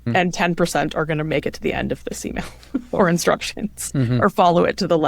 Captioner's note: chuckles